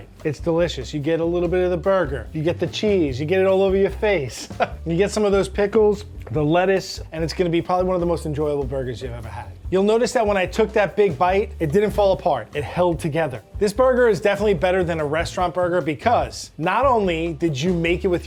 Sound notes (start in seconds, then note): 4.3 laughs